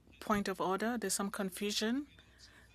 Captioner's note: speaking French